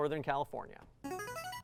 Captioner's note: buzzer